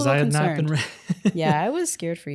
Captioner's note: laughing